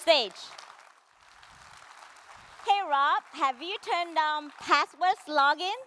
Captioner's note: applause